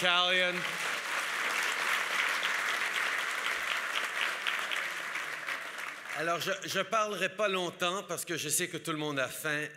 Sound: applause

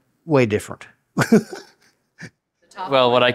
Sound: laughs

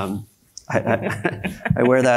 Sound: panelists laughs

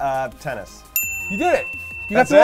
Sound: dinging

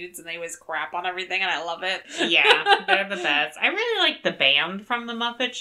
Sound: laughs

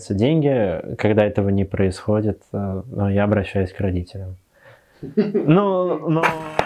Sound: laughs

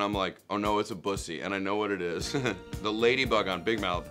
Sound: laughs

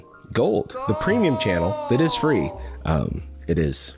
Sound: echo

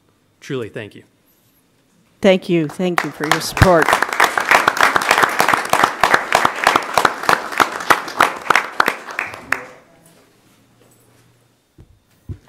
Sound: applause

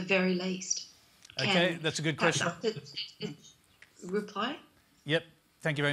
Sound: interference

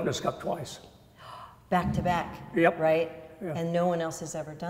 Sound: gasps

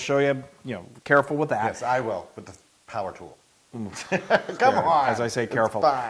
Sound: laugh

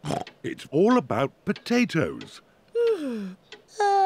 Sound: snorts; yawns

